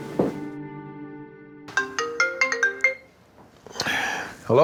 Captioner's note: phone ringing